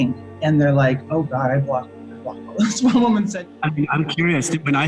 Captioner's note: laughs